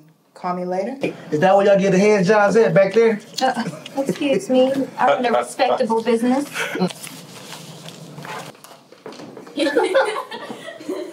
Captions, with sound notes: - Is that what y'all give the hand jobs at, back there? - (scoffs) Excuse me? I run a respectable business. (Alli laughing)